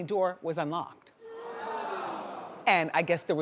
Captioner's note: audience gasps